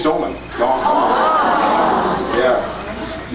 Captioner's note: many awwws